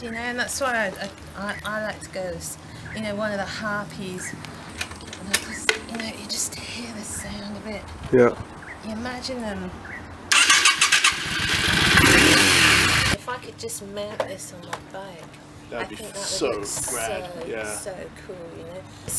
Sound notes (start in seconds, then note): 10.3 starts bike, revs engine